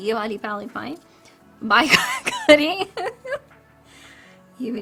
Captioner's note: laughs